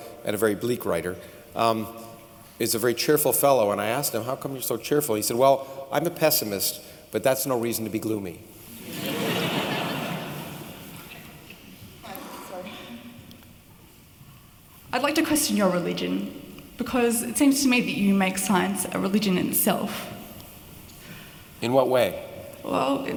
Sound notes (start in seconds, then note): 8.8 laughter